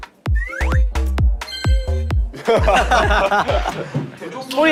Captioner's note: passes with a kettle whistle sound